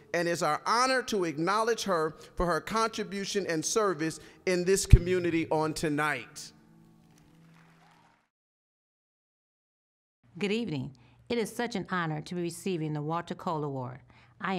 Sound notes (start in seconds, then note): 7.0 applause